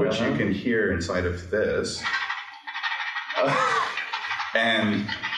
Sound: pen noise

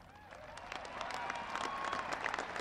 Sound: applause

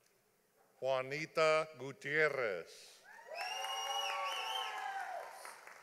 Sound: audience applauding

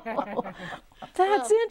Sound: laughing

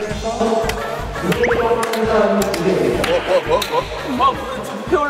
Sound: hahaha

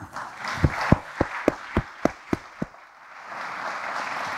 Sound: audience applauding

